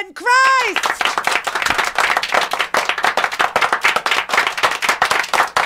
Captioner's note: studio clapping